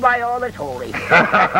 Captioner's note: laughter